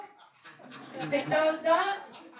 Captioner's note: laughing